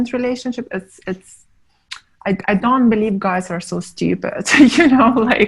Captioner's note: laughing